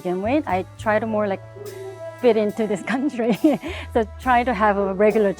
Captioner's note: laughing